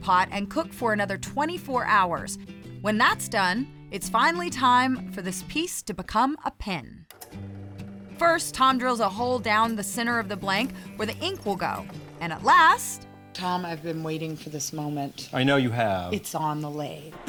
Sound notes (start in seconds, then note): 7.2 drilling